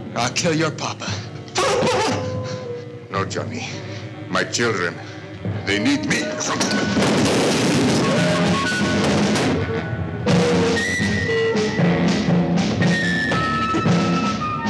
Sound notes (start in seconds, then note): 6.6 guns fire; 10.7 suspenseful orchestral music